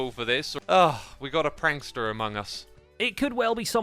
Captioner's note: sigh